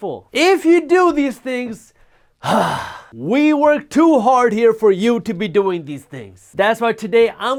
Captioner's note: sigh